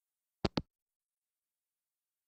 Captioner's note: hangup